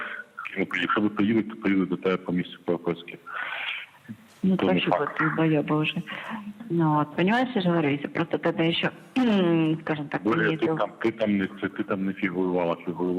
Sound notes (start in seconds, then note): 4.0 speaking Russian